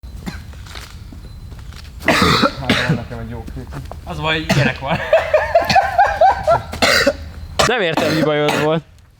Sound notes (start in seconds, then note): 0.0 cough; 4.4 laugh; 6.7 cough